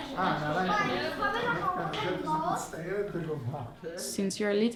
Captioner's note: laughing; all speaking foreign language